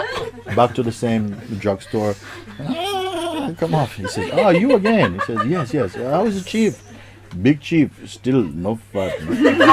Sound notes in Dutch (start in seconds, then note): 2.2 paardengehinnik; 8.9 Gelach